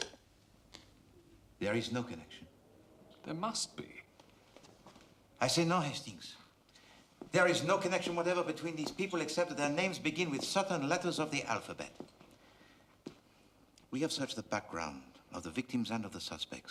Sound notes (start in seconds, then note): none